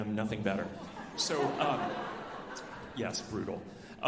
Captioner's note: alumni laughing